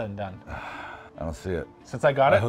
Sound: sighing

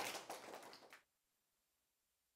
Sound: applause

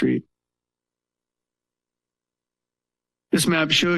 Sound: pause

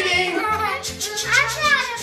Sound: making choo choo sounds

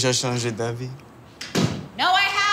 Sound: door slam

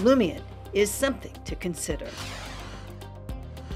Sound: logo swooshing; soft upbeat music

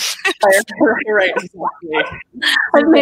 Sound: laughs; laughing

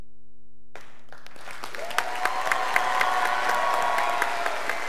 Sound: students applauding

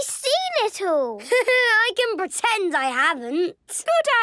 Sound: Danny laughing

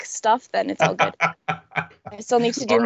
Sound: laughing

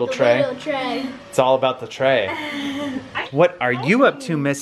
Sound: kids chuckle

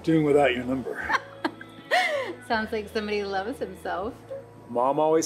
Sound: laughs

